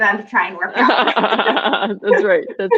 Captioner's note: laughing